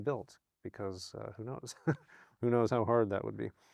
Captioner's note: chuckles